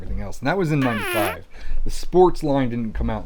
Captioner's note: fart sound